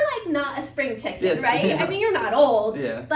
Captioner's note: laughing